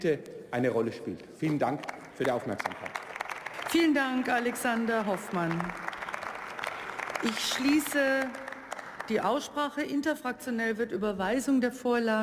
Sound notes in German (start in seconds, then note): 3.3 Beifall; 8.0 Beifall